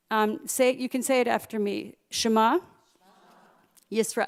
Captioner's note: Hebrew; Hebrew